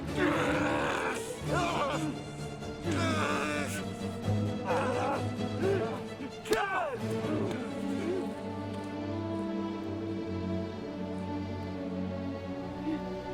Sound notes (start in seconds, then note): 0.1 dramatic music; 2.8 groaning